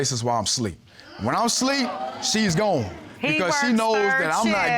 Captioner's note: audience gasps